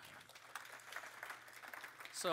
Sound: applause

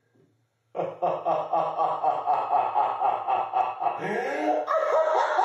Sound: laughing

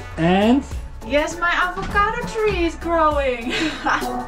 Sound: laughs

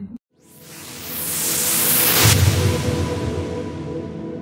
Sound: whooshing

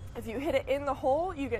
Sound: laughter

